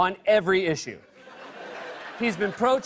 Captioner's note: laughter